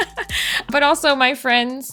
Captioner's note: laughs